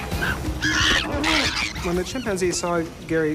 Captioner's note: chimpanzee shrieking